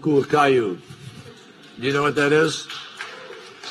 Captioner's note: applause